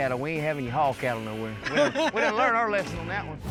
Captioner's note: laughs